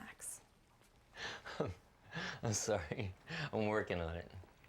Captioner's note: risas